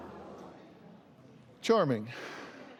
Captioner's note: audience murmurs